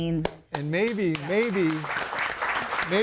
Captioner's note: audience applauding